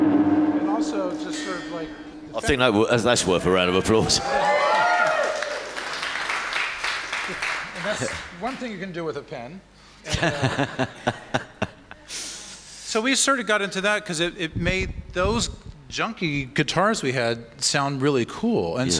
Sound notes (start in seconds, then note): 4.6 applause; 10.1 laughs